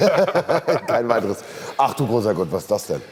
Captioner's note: laughter